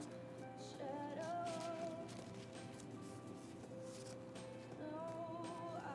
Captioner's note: bills rustling